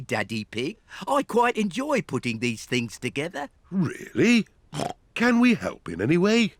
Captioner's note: snorts